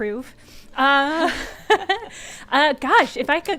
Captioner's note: laughs